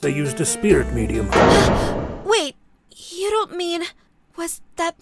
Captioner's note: gasp!